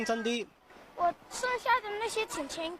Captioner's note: Mandarin